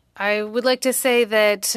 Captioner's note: speaking French